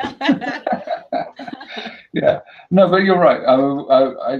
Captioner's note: laughter